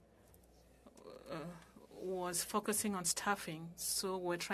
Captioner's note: speaking french